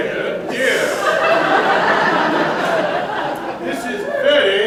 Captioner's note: laughter